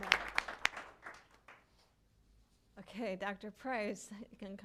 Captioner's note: applause